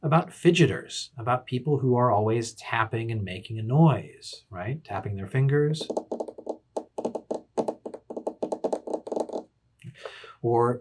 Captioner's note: tapping